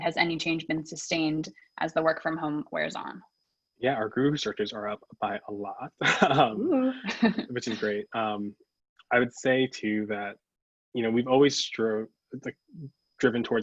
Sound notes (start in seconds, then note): 5.2 chuckles; 5.3 laughs